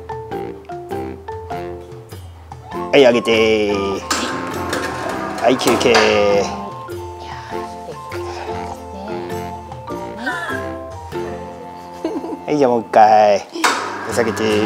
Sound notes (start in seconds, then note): 11.7 laughs